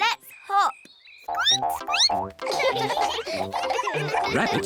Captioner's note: squeaks; all giggle